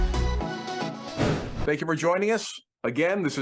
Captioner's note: air whooshes